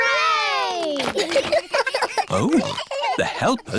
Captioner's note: giggles